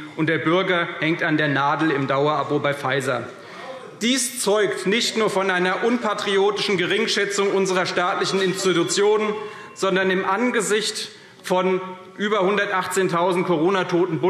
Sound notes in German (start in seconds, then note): 9.3 Zurufe – Glockenzeichen